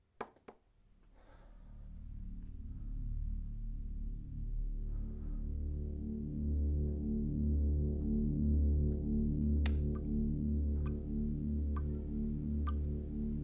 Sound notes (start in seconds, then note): 2.2 ominous music; 10.7 water dripping